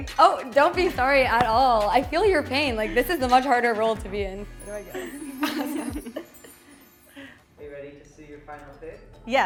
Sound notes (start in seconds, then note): 5.0 laugh